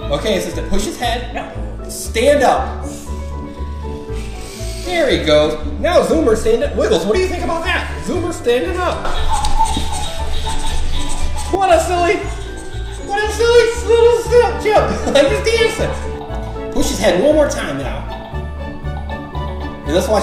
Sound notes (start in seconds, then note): 12.4 monkey singing; 15.3 laughing